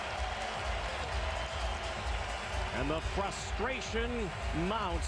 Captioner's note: cheers, applause